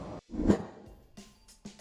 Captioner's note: air whooshing; dramatic pop music